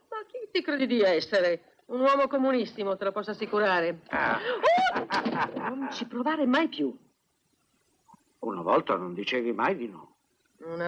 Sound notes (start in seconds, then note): 4.2 chuckling; 4.6 screams